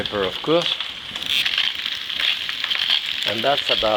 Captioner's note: peppercorns cracking